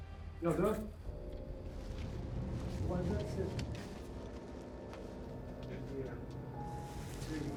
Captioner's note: ratchet talking outside